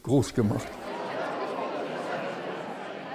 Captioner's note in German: Stimmengewirr